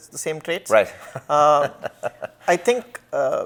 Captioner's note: laughs